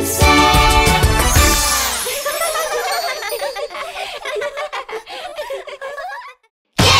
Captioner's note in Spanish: Risas